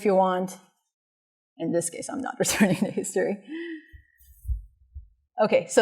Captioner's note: laughter